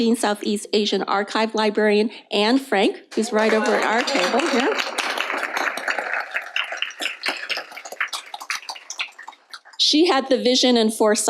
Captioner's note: applause